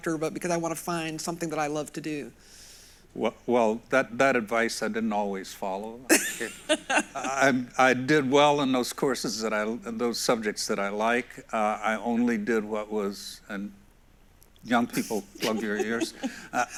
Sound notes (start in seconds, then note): 6.1 laughs